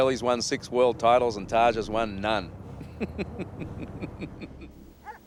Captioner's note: chuckling